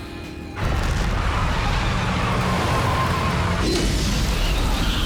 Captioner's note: fires roar